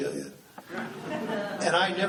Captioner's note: laughing